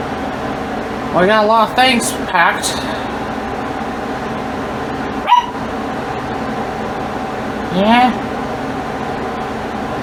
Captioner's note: Ella barks off-screen